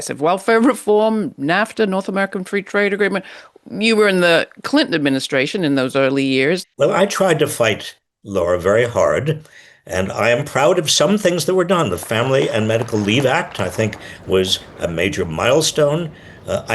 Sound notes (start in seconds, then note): 11.9 audience applauds